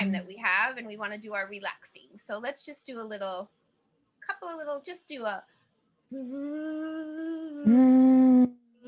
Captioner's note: buzzing with lips